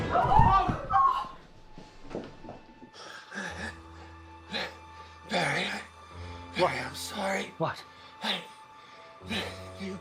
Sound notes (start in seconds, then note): 0.0 dramatic music continues; 0.3 Eleanor and Dean gasp; 3.1 Pappy gasps; 4.4 panting